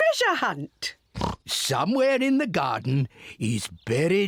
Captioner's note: oinks